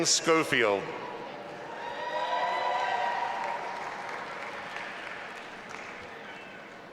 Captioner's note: audience applauding and cheering